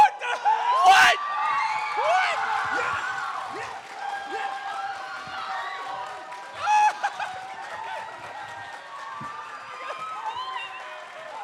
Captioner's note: screaming and cheering